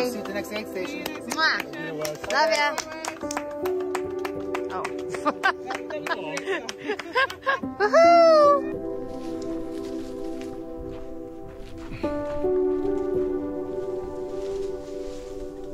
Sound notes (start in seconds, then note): 3.5 crowd applauds; 5.1 laughs; 8.8 leaves rustle